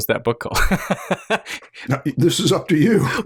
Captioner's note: laughter